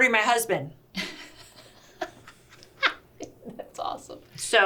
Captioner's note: laughs